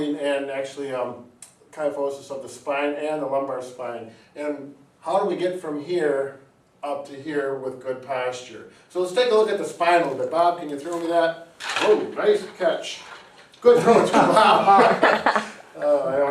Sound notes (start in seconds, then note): 11.6 spinal bone model clacking; 13.8 and onlooker laughing